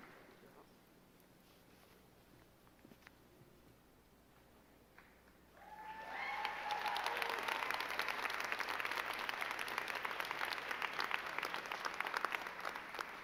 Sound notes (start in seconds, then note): 5.5 crowd cheering and clapping